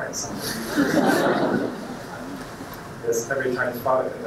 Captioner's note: audience laughing